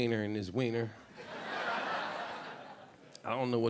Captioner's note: audience laughing